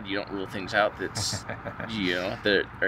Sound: chuckles

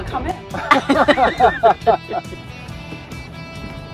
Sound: laughing

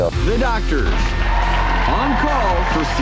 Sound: cheering

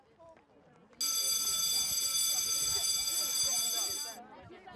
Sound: school bell

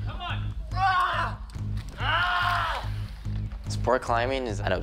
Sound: groans

